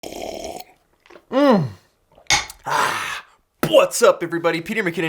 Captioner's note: slurping noise